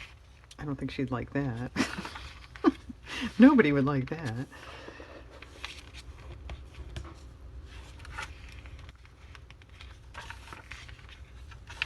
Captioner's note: laughs